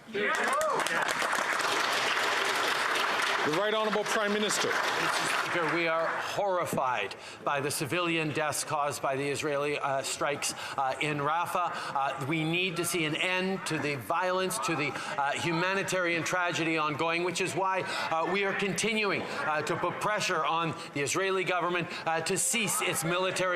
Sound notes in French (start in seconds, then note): 6.9 applaudissements; 8.5 voix de l'interprète